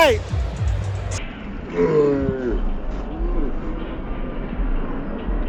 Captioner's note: slow motion grunt